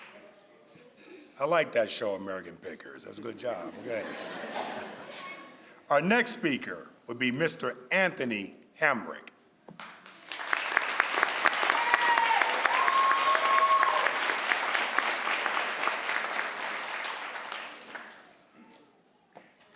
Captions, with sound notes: - I like that show, "American Pickers", that's a good job. (crowd laughs) Our next speaker would be Mr. Anthony Hamrick. (crowd applauds)